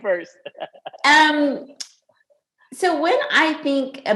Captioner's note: laughs